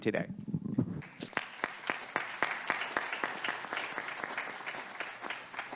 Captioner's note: audience applauding